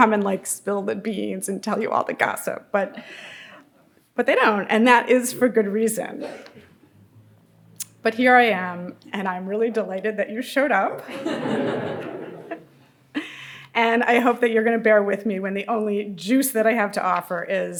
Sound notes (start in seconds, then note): 11.0 audience laughing